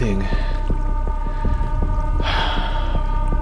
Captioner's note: sigh